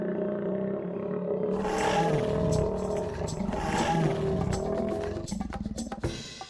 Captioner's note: growling; upbeat music